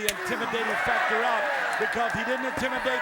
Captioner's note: crowd cheering